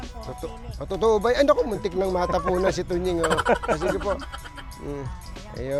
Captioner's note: laugh